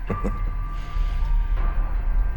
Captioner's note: chuckles